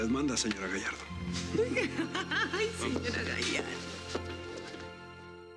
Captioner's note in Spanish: risas